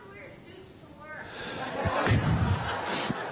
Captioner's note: laughter